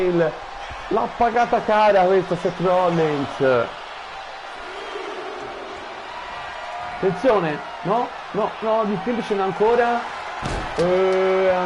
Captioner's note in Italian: Applauso